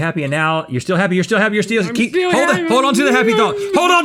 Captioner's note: whining